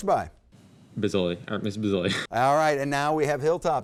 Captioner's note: laughs